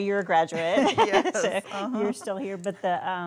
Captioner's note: all laughing